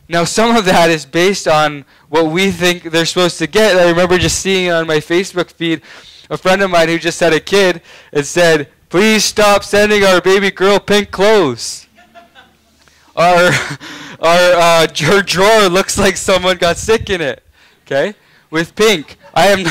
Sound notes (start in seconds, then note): 13.3 laughing